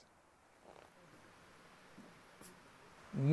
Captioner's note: wind rustling through the trees